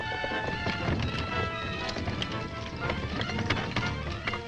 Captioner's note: horses galloping